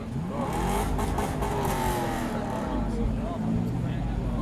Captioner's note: engine revs